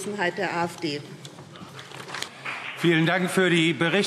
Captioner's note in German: Beifall CDU und BÜNDNIS 90/DIE GRÜNEN